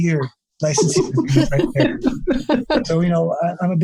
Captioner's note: laughs